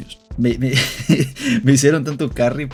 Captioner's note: laughter